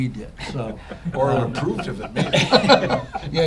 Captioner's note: laughter